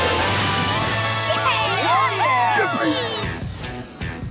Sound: cheering

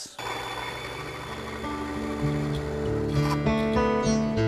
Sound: saw buzzing; gentle guitar music

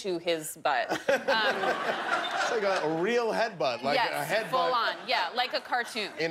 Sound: laughter

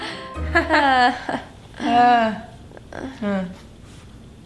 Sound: grunts

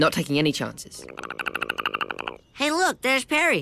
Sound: Perry chattering

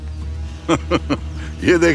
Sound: laughs

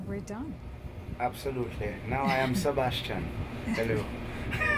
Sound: laugh

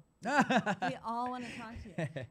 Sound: laughter

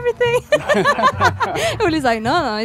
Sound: laughs

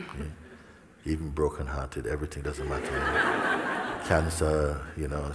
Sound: smijeh

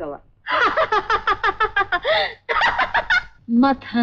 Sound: laughs

